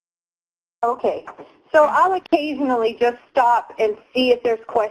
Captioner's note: pat